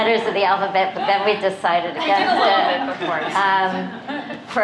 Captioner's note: laughter